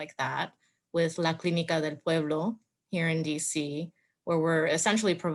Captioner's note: speaks foreign language